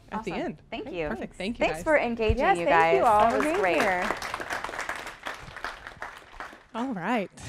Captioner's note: applause